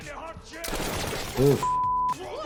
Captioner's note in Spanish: disparos